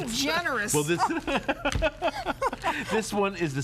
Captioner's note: laughter